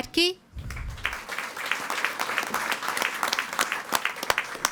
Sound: audience applauding

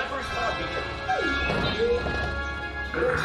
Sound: droid Chirps

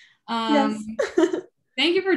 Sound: chuckles

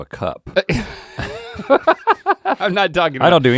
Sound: laughing

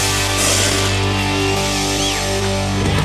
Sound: sprays; crowd whistles

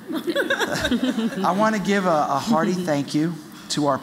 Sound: laughter

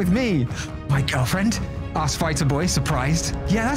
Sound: gasp

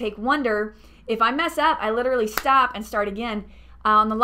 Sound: hand clap

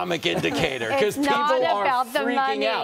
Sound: laughter

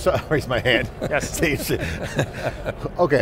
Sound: group laughing

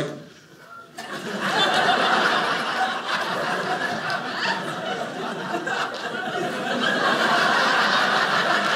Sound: audience laughing

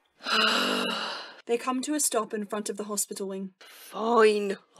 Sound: melodramatic sigh

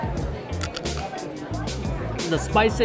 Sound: crunches

